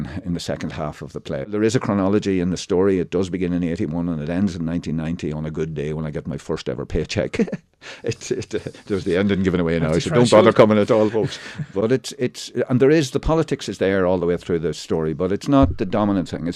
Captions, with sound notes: in the second half of the play. There is a chronology in the story. It does begin in 81 and it ends in 1990 on a good day when I get my first ever paycheck. There's the ending given away now, so don't bother coming at all. (Laughter) and the politics is there all the way through the story, but it's not the dominant thing.